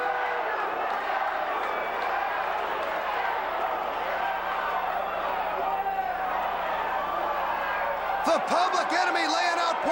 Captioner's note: crowd cheering